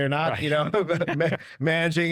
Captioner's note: chuckles; chuckling